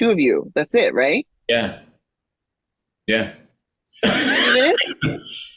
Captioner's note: laughing